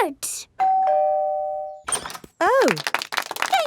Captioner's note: doorbell ringing; crowd applauding